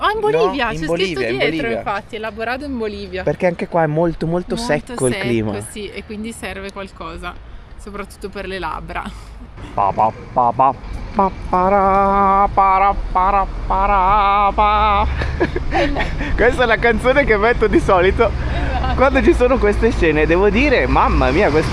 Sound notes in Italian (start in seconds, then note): 15.0 risate